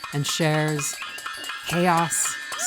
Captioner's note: pots and pans clanging